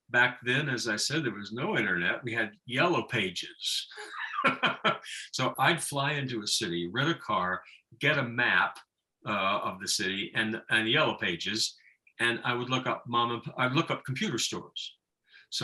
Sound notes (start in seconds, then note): 3.8 laughing